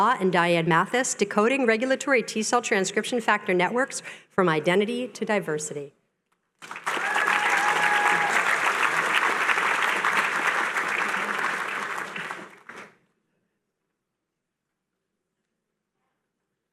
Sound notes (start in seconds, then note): 6.6 cheering